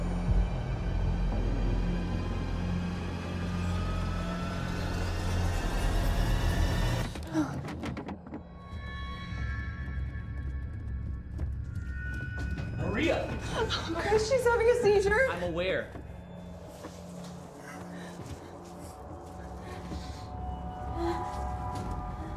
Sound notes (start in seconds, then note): 0.3 suspenseful music; 7.3 chair thuds